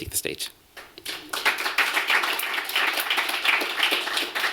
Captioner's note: applause